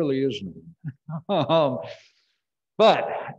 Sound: laughs

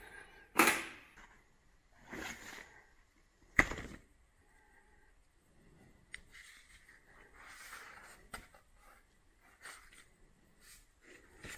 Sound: paper shuffling

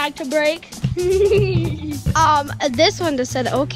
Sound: laughing

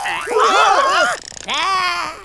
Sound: growls

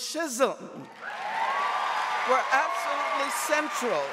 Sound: audience cheering and applauding

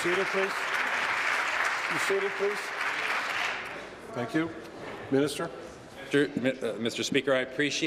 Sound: applause

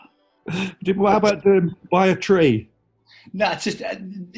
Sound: laughing

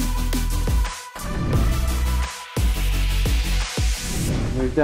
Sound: air whooshing

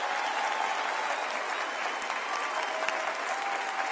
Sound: applause

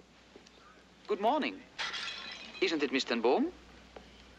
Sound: loud tinkling

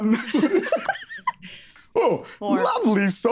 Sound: group laughs

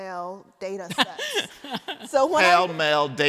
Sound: laughter

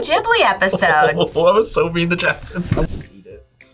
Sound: laughs

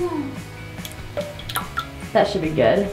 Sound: dog food plopping

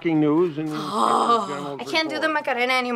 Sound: groaning

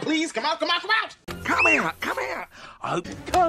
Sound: shrieks

